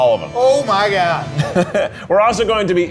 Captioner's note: laughs